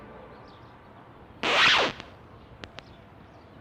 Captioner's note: record scratch